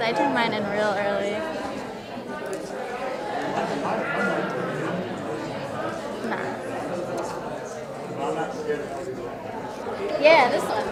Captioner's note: audience chatter